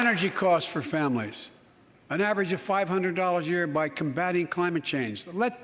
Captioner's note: applause